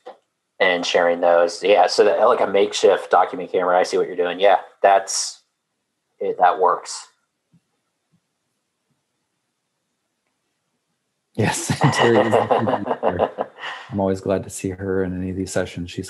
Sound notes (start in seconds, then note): 8.0 laugh